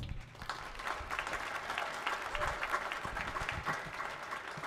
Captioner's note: audience clapping